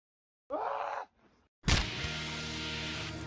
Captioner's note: thud